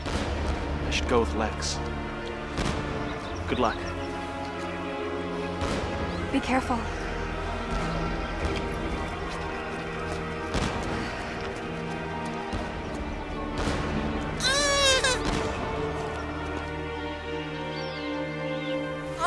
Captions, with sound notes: - I should go with Lex. Good luck. - Be careful. (baby crying)